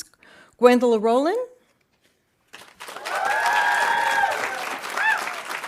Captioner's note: audience applauding